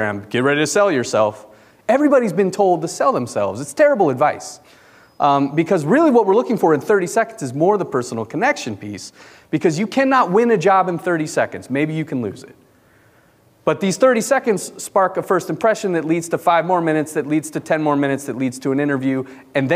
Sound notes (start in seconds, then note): none